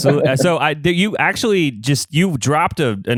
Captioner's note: laughs